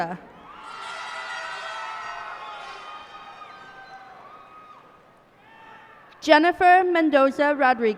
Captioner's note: cheers and applause